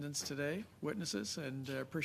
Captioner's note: speaking French